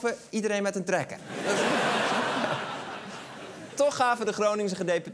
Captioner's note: laughter